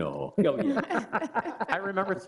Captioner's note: laughing